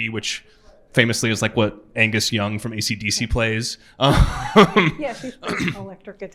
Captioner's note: laughs